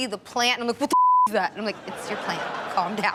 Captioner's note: beep